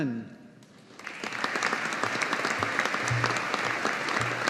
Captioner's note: audience applauding